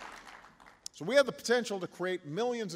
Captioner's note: applause